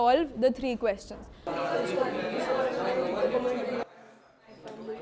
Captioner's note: students discussing